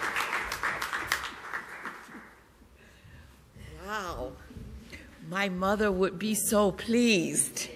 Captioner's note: applause